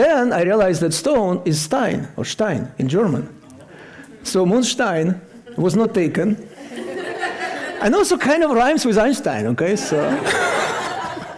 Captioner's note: laughter